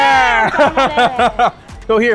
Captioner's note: laughs